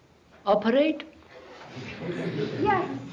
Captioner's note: laughter